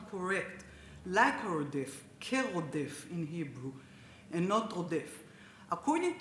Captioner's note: speaks Hebrew